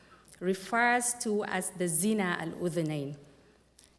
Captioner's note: non-english speech